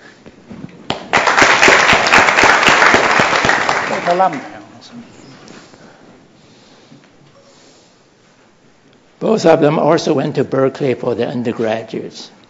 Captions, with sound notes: [Applause] Both of them also went to Berkeley for their undergraduates.